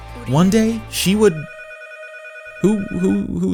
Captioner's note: phone ringing